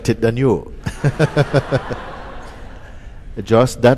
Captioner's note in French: rire